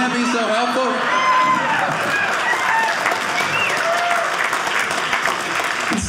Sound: audience cheering

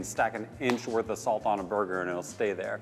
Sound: claps hands

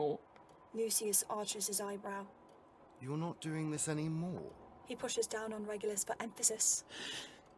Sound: Regulus gasps

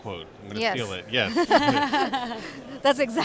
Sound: laughing

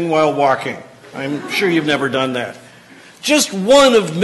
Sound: laughter

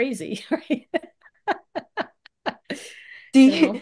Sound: laughs

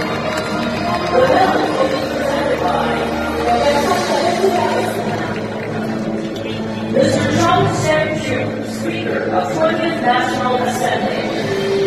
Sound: cheering and applause

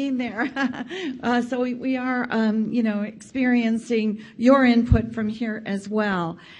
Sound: laughs

